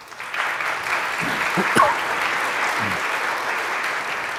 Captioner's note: audience applauds